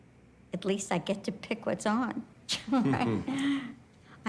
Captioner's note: people chuckling